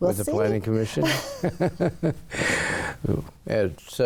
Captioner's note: chuckling